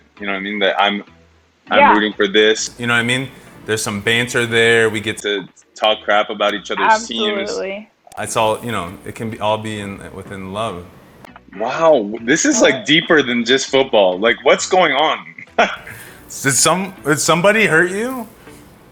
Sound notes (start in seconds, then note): 15.7 laughs